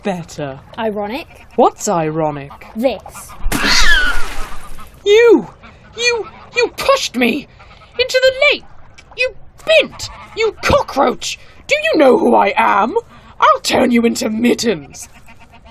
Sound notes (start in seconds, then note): 3.4 Cheshire screeches. Splash